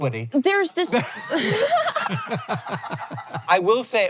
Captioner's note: CREW laugh